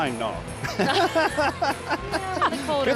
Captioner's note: laughing